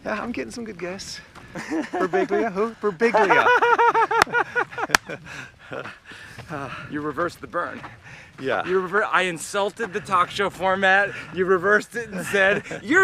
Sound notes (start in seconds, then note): 1.5 Mike laughs; 3.1 both laughing